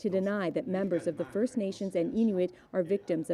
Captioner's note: speaking French